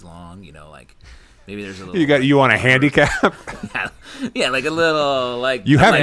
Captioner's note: laughter